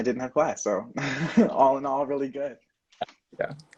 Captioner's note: laughing